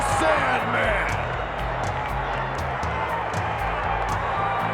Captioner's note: audience cheers